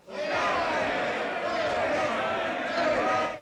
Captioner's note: angry shouting